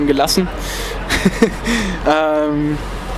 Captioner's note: laughts